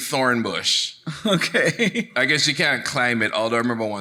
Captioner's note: chuckles